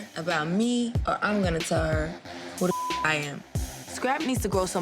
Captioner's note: beep